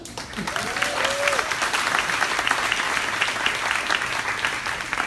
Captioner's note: crowd applaunding